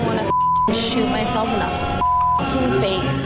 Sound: beep

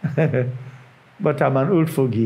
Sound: chuckles

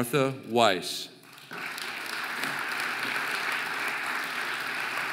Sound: audience applauding

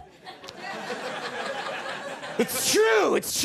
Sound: laughter

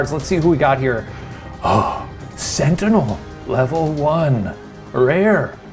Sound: gasps

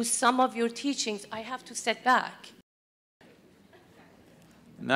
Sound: laughter

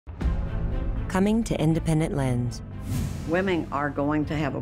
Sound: voiceover

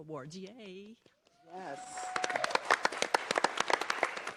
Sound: applause

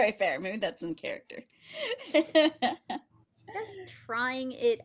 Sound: laughs

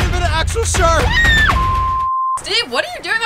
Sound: screaming

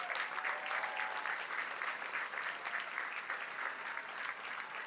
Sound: applause

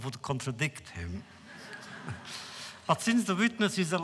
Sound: laughter

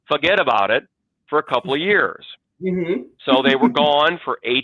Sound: chuckles

